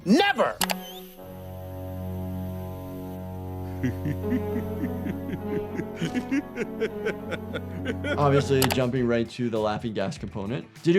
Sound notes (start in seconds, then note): 1.1 ominous music; 1.5 doctor laughs